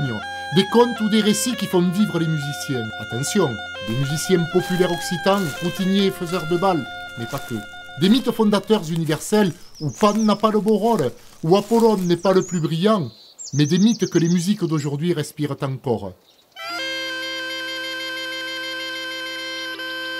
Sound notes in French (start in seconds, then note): 6.7 Bruit de pas dans des feuilles; 14.8 Chants d'oiseaux